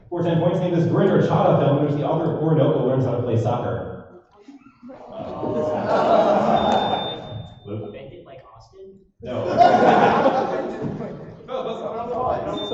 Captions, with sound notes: For 10 points, name this Gurinder Chadha film in which the author of Oroonoko learns how to play soccer. [audience says "oh"] Luke? Bend it like Austen? No. [laughter]